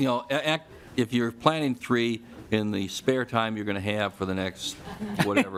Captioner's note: laughing